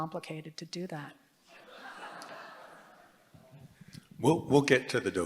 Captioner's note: laughter